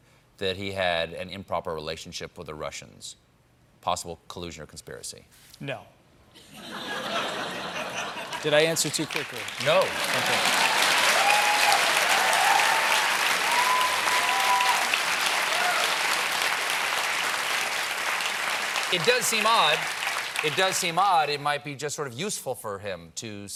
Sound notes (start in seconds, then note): 6.4 laughter; 14.0 cheers and applause